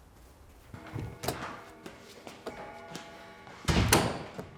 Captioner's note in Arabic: دقات ساعة الجد